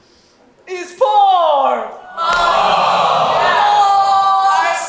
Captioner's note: audience awwws